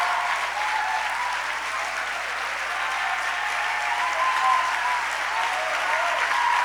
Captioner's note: applause